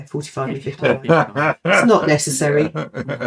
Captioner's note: laughing